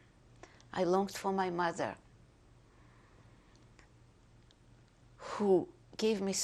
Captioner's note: pauses for 3 seconds